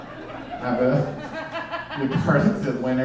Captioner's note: audience laughing